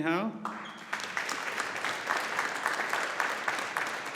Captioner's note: audience applauding